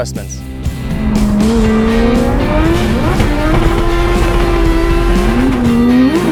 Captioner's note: upbeat music; engine revving